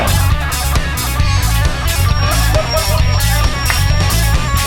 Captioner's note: party guys laughing